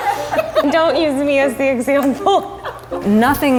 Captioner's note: laughs